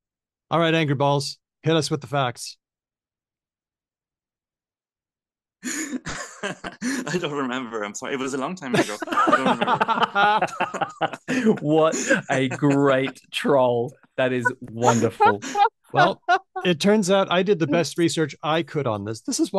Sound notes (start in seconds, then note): 8.7 laughs; 11.7 laughter